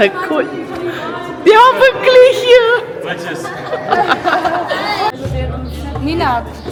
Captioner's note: laugh; speaking German